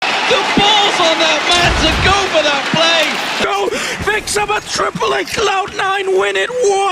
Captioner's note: crowd noises